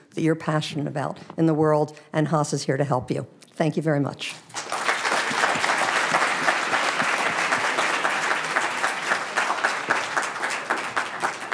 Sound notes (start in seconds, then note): 4.5 audience applauding